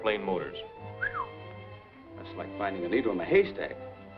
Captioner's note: whistles